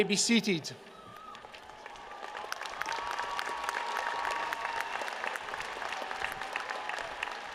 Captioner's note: applause